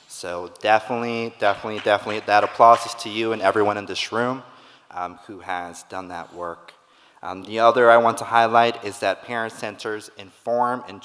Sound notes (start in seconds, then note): 1.6 audience clapping